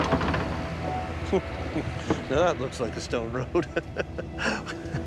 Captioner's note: laughs